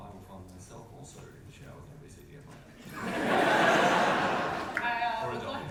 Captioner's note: audience laughter